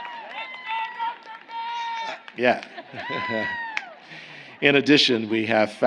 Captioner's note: applause